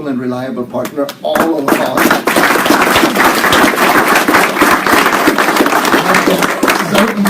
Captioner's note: applause